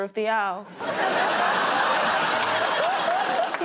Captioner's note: laughter